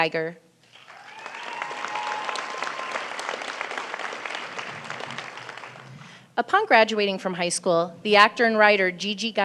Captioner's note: applause